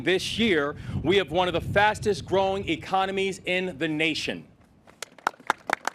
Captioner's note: applause